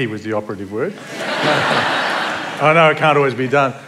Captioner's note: laughter